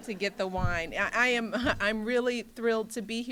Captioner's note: laughter